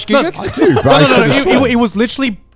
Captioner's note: laughing